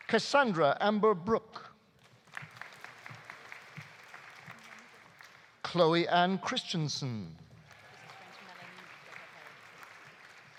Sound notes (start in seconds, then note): 2.0 audience applauding; 7.6 audience applauding